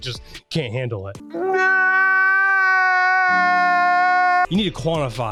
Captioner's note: man crying